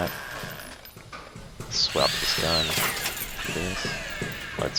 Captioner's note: drill sounds